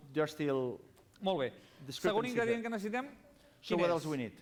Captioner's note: non-english speech